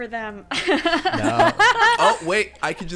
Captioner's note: laughing